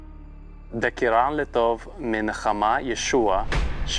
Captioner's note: reading in Aramaic